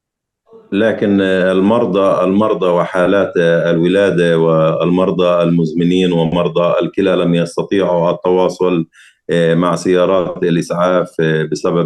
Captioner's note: speaking arabic